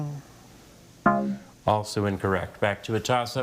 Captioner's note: bell blares